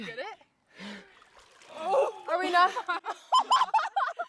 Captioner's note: laughs